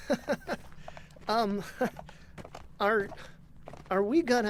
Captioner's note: bashful laugh